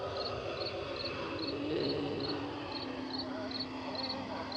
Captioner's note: groaning